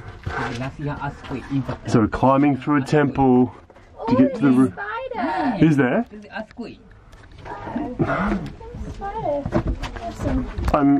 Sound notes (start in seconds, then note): 6.9 speaking in foreign language